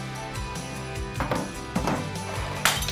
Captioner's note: wheelbarrow squeaking; rocks banging; glass breaking